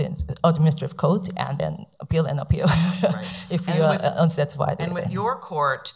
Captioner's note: laughs